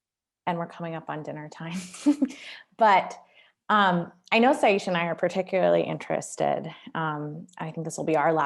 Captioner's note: laughter